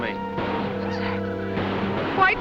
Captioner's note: gunshots